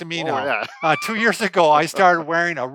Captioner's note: laughs